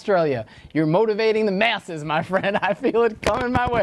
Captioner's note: laughs